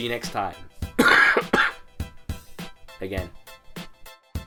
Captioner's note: coughing